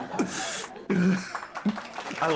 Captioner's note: audience Laughing